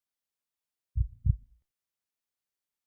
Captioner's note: heartbeat